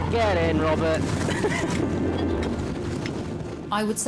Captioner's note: lifeboat engine whirring; wind swooshing; laughs